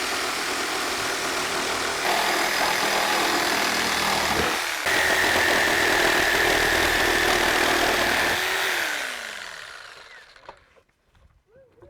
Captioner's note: saw buzzing, no additional audio